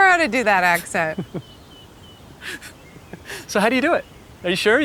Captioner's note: camera Man chuckling